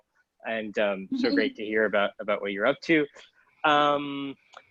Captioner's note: giggles